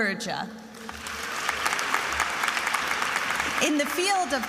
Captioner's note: attendees applauding